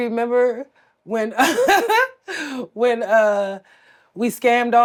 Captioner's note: laughs